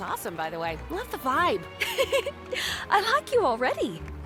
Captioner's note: giggles